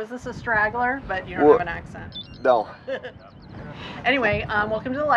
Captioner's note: laughing